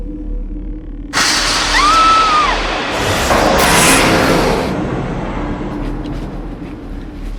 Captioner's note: Desiree yells; dramatic music